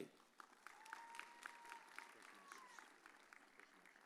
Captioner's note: audience cheers